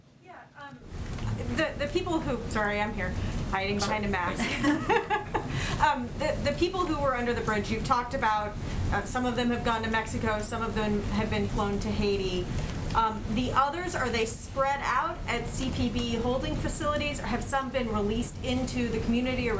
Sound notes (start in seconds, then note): 4.4 laughter